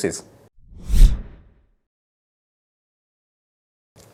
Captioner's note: air whooshes